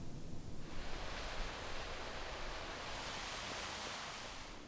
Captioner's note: fountain rushes